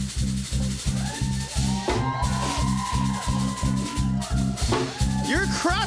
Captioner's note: cheering